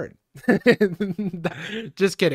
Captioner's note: laughing